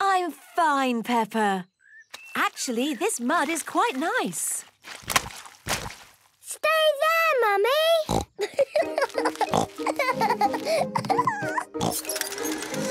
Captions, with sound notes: - I'm fine, Peppa. Actually, this mud is quite nice! - Stay there, Mummy. Snort! (laughing)